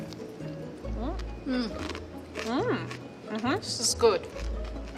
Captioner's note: women humming happily